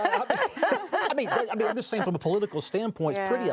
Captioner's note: group laughs